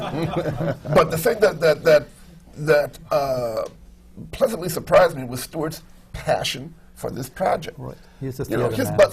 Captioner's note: laughter